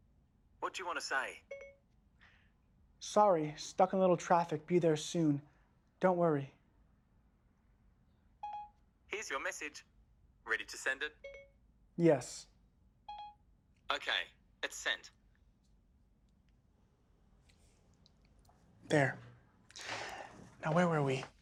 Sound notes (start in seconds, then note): 8.4 phone chimes; 13.1 phone chimes